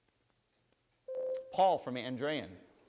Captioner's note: bell rings